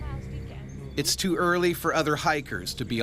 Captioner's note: voiceover